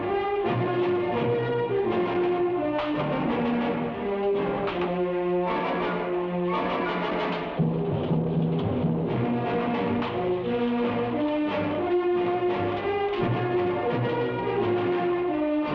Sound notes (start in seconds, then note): 3.0 vague banging; 9.0 thrilling music